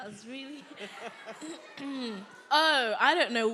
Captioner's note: audience members calling out